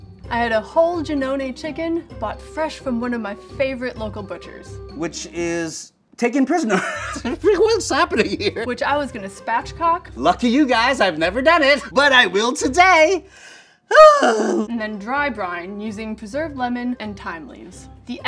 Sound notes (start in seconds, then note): 6.7 laughs; 13.8 sighs